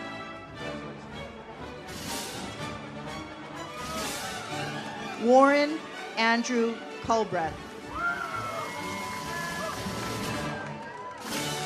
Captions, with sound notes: Warren Andrew Culbreth. (audience cheers) (uplifting music)